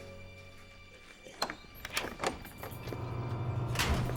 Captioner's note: door opens